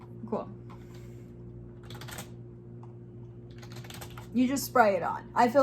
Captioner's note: keyboard clicking